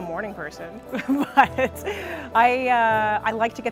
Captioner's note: laughter